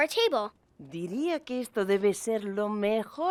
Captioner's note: speaking Spanish